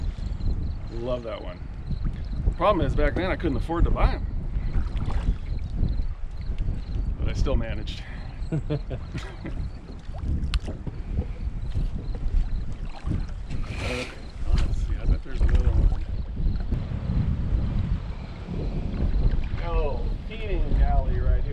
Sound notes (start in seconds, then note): 8.2 chuckling; 10.3 rod whipping; 13.1 reel spinning